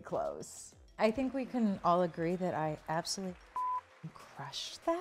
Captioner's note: beep